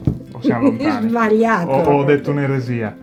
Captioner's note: laughs